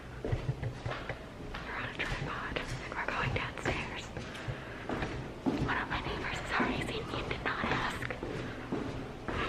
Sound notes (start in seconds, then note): 5.4 whispering